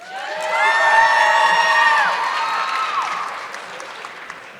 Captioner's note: audience clapping